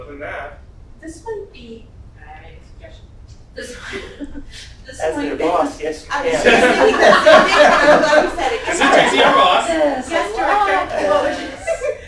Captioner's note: background conversation